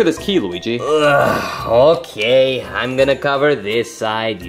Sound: sighs

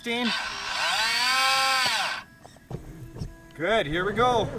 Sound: buzzing

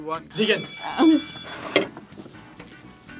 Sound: bell rings

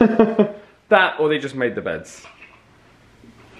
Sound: laughs

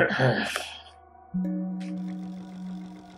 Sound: tone sounds; mechanical clicking

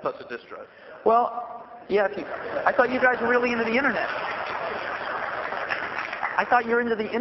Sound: laughter

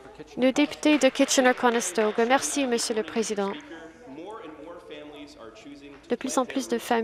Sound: some Applause

